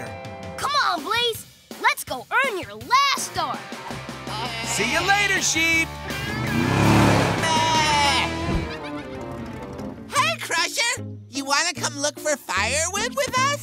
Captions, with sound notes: Come on Blaze! Let's go earn your last star. See you later sheep! [baaing] Hey Crusher, you want to come look for firewood with us?